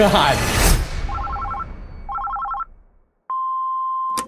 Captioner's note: answering machine beeps; phone rings